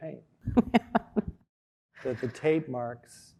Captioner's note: laughing